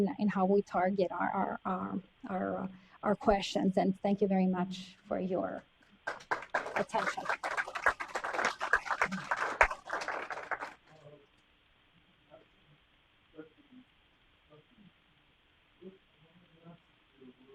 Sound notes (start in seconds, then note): 6.0 applause